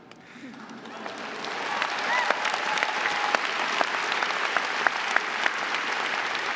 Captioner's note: audience cheering and applauding